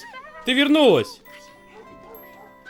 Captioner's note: dog barking